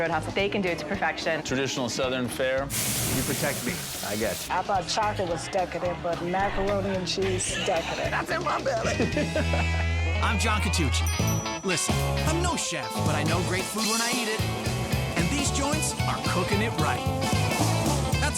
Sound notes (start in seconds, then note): 2.7 pan sizzles; 8.8 man laughs; 11.0 bell dings